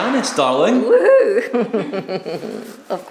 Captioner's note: chuckles